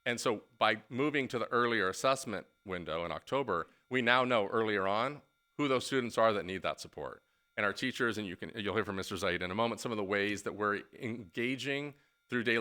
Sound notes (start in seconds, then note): none